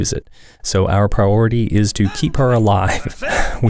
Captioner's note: haha